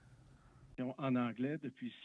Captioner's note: speaking French